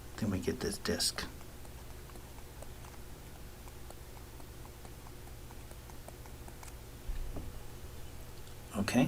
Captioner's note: writing Sounds